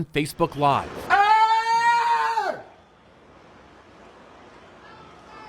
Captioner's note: screams